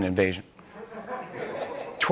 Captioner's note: laughter